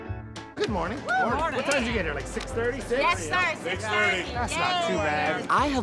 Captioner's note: chatter